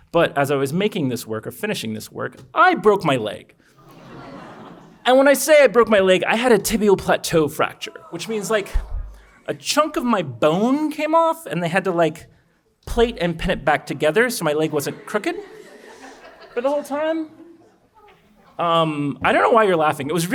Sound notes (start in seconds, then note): 14.5 audience chuckles